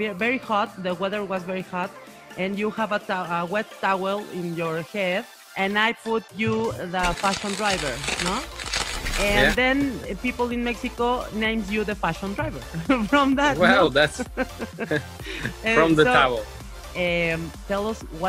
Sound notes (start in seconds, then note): 7.1 flashes sounds; 15.9 laughs